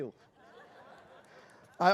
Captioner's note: laughter